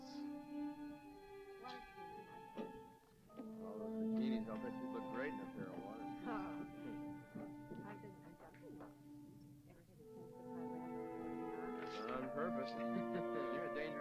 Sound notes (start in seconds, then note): 6.8 Christy talking off mic; 6.8 ominous music; 12.4 chuckles